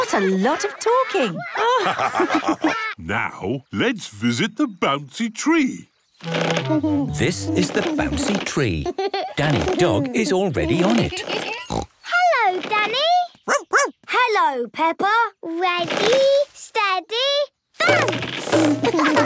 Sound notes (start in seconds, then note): 1.3 all laugh; 10.7 snorts; 13.4 barks